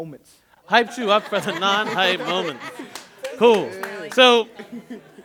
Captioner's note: laughter